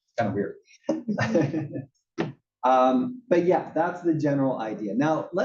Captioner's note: laugh